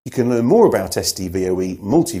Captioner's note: none